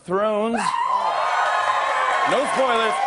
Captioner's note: cheers and applause